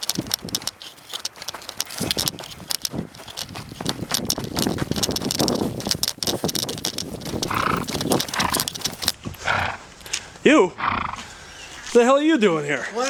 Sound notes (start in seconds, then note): 0.2 camera clattering; 6.4 air whooshing